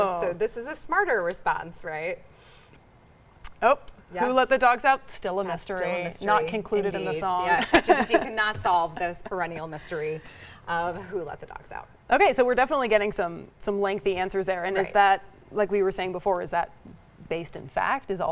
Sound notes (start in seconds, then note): 7.5 laughs